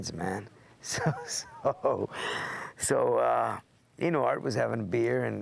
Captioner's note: laugh